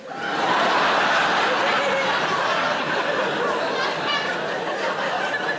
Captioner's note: audience laughing